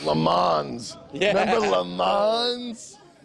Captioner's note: laughs